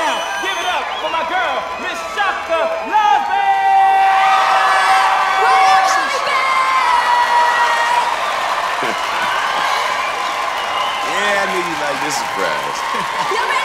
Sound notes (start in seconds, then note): 8.6 laughs